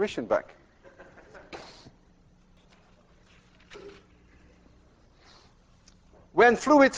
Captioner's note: class laughs